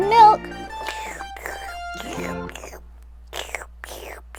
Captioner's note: slurping noises